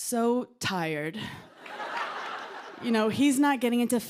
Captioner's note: laughter